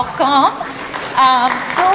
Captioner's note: applause